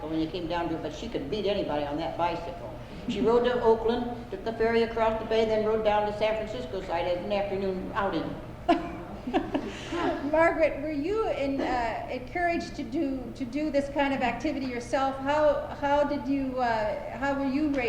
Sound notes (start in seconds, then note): 8.7 laugher